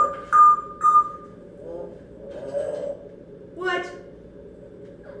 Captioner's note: deep voice gibberish - she's working on mimicking my dad's tones